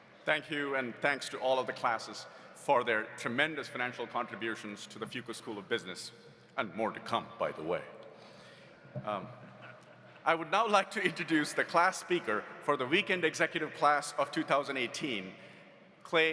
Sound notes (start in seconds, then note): 8.7 audience laughs